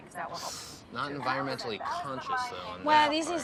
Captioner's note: inhales sharply